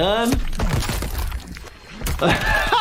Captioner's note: bones crunching